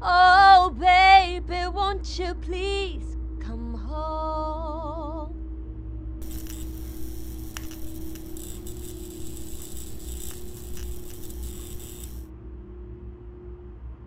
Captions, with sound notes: [singing] Oh baby, won't you please come home. [electric humming]